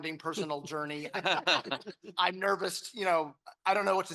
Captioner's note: panel laughing